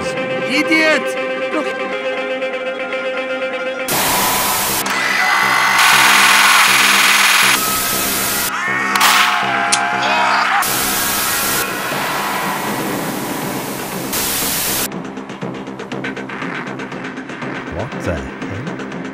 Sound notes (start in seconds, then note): 4.0 minigun wind-up; 5.2 battle cry; 6.8 minigun fires; 9.0 gunshots; 9.4 zombie yells; 9.7 click